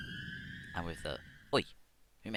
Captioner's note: scary cave noise